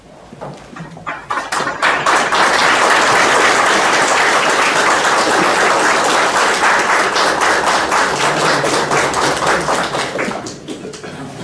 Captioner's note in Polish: oklaski